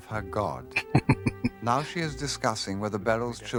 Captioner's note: chuckling